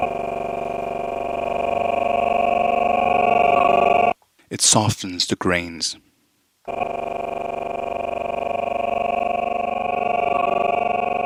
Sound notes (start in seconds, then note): 0.0 sound sample stuttering; 6.6 sound sample stuttering